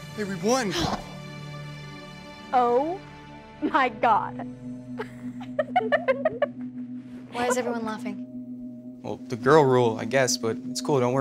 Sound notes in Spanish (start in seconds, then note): 5.0 riendo